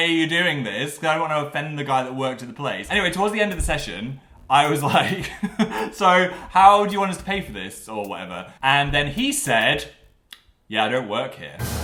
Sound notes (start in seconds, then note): 4.7 laughs; 11.6 shocking noise